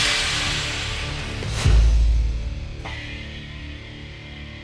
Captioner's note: thump